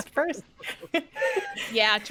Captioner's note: all chuckling